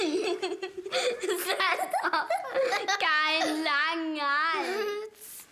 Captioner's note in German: kichert